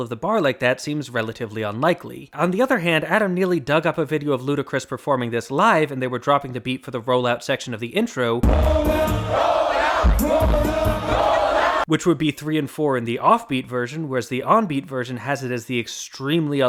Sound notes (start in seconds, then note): 8.4 bang